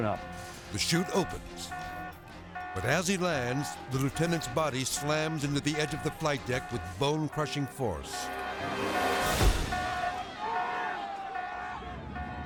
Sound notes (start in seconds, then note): 7.9 object beeping; 9.6 people clamoring